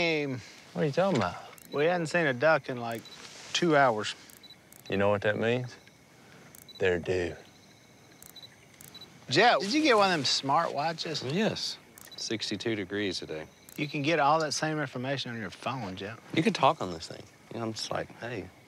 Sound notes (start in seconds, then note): 6.4 watch beeps